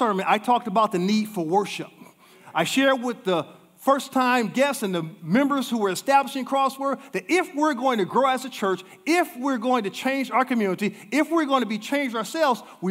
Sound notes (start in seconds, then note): none